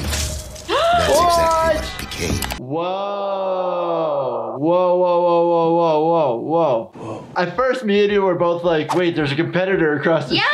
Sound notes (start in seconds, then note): 0.1 wet squelching; 0.7 gasps